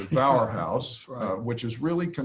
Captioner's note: laughs